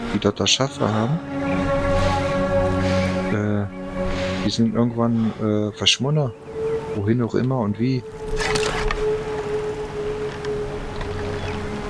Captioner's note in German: schnauben